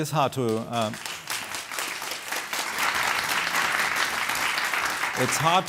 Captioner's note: applause